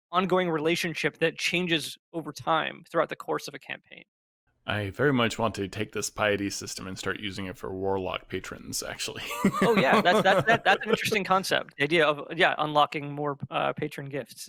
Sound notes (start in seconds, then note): 9.2 laughs